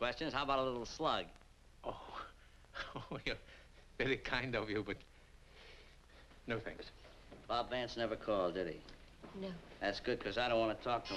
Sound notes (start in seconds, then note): 2.7 chuckles